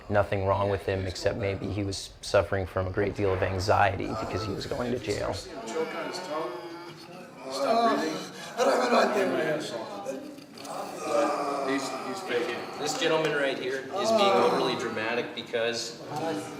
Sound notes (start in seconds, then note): 6.0 Iraqi man moaning